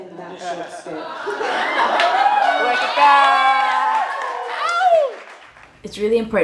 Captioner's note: applause